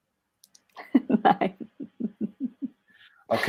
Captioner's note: laughs